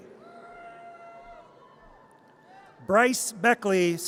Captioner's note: audience cheers